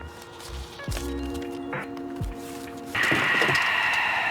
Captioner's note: peaceful music; papers rustle; ominous music